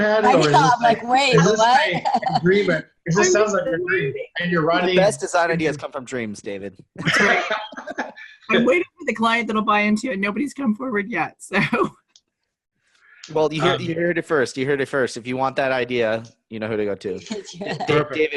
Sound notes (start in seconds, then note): 7.0 laughs